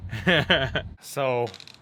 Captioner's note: laughing